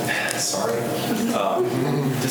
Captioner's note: students laugh